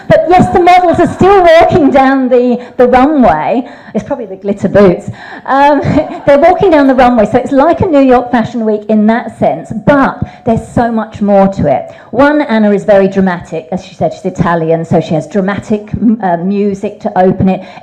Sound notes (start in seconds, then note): 0.4 audience laughs; 5.6 audience laughs; 5.6 laughs